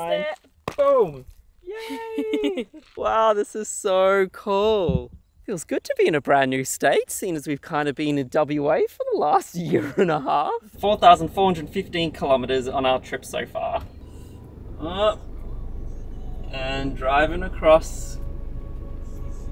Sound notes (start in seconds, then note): 1.7 chuckles